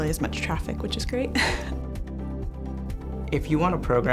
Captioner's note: chuckles